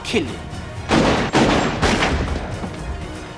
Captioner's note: gunshots